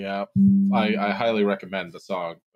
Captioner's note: deep bell sound